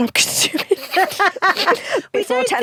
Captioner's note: both laugh